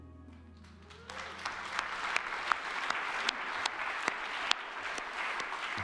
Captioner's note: audience clapping